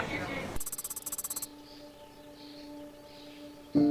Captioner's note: keyboard tapping; soft music